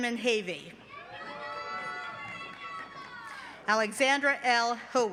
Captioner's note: cheering